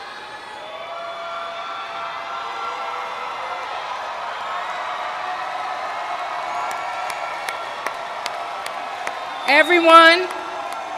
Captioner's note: cheers